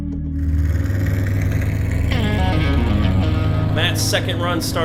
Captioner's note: car engine rumbling